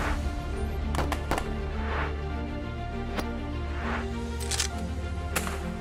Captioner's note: bold music; guns firing